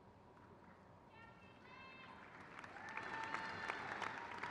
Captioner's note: crowd cheers